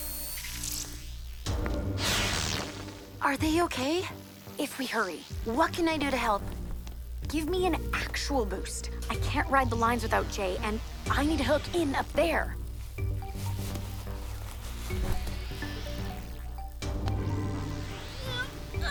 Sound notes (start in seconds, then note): 0.0 suspense music; 1.2 electrical buzzing; 13.5 suspense music; 18.3 Jessa grunts